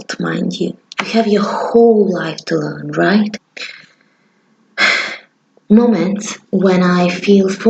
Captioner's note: sigh